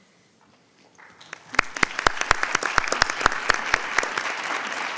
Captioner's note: group clapping